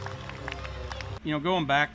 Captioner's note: applause; fireworks